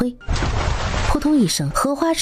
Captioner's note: splash!